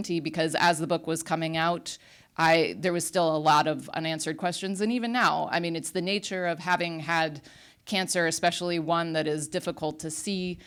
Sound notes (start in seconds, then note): none